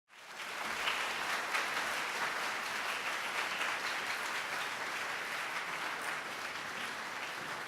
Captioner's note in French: Applaudissements